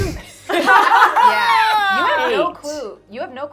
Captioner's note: laughing